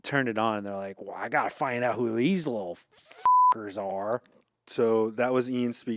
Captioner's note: beep